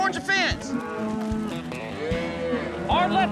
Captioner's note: mooing